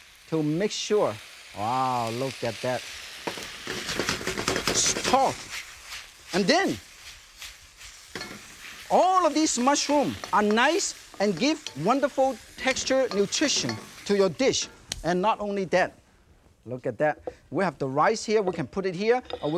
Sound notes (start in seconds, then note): 3.4 ingredients sizzling; 3.6 pan rattling; 8.1 pan clinks; 8.8 pan clinking; 16.0 hands tap; 17.0 plate thuds softly